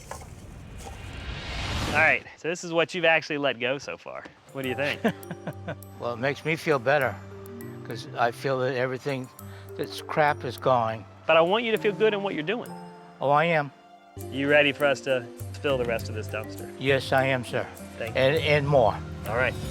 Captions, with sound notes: All right, so this is what you've actually let go so far. What do you think?[Laugh] Well, it makes me feel better because I feel that everything that's crap is gone. But I want you to feel good on what you're doing. Oh, I am. You ready for us to fill the rest of this dumpster? Yes, I am, sir. And more. - All right, it's good.